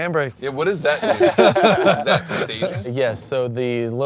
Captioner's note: they laugh